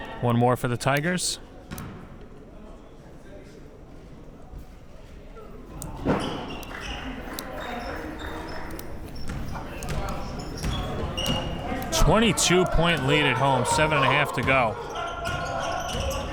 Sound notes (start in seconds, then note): 6.7 clapping